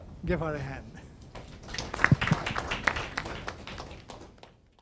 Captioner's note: students applause